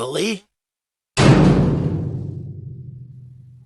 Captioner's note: cell door slamming